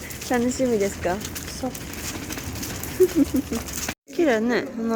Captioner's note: laughs